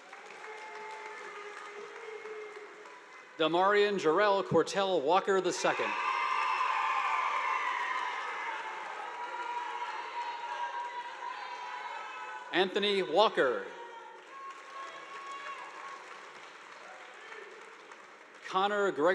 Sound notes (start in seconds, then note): 0.0 audience applauding; 5.5 students cheering; 5.7 audience applauding; 14.1 audience applauding